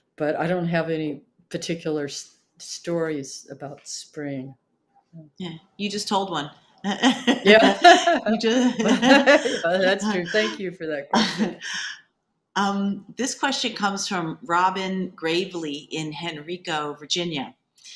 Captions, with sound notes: But I don't have any particular stories about spring. - Yeah. You just told one. - Yeah. (both laughing) Well that's true. Thank you for that. - This question comes from Robin Gravely in Henrico, Virginia.